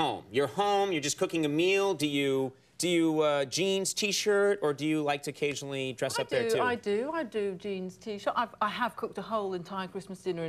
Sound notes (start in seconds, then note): none